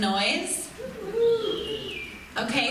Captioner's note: some audience whistles and low cheers